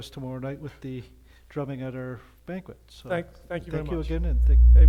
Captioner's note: mic feedback